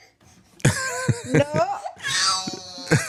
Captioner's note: laughter